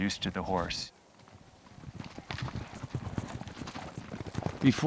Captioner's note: hooves pounding